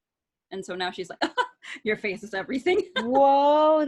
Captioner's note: laughs